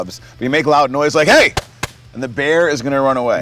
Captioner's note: whacks item